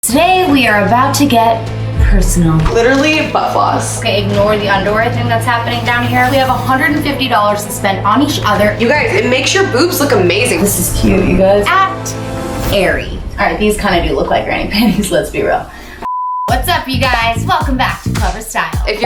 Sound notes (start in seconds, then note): 16.0 beep